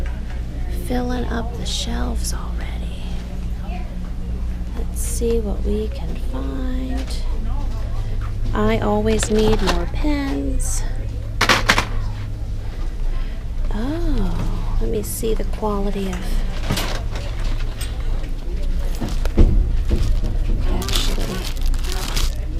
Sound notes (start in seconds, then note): 11.1 package clatters